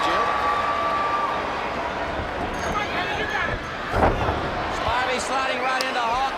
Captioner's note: crowd chatter